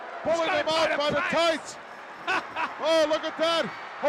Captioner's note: laughs